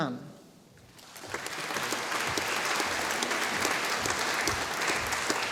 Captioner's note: audience applauding